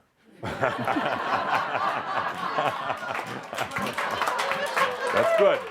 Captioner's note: lots of laughter and some applause